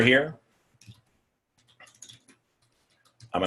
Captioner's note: typing